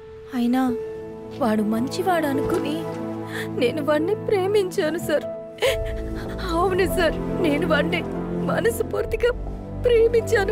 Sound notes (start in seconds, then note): 5.5 crying